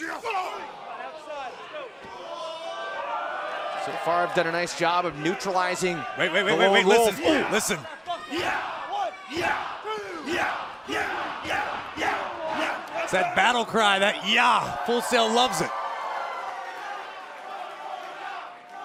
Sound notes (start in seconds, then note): 12.2 fans chanting; 17.2 cheers & applause; 18.6 fans chanting